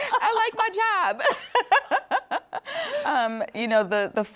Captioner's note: laughs